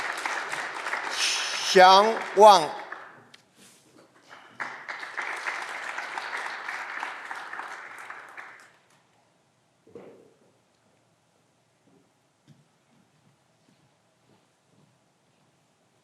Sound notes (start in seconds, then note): 4.2 clapping continues